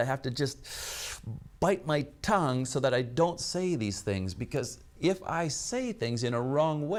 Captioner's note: inhales sharply